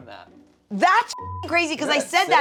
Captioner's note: beep